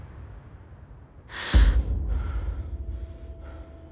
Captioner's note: muffled gasp